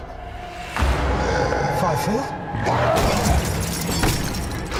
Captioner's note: alien growls; glass shatters